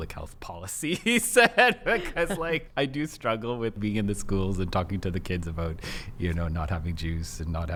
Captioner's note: laughs